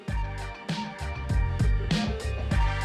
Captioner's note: laughs